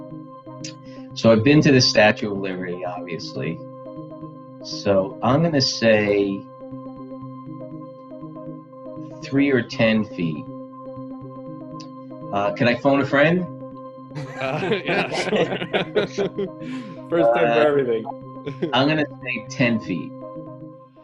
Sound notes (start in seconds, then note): 14.2 laughs